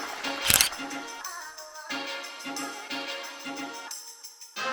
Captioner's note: camera clicks